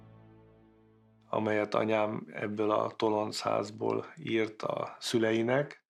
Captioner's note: speaking foreign language